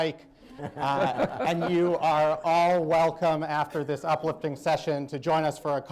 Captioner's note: laughter